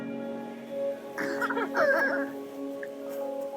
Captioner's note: laughter